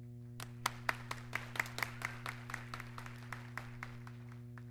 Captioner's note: audience clapping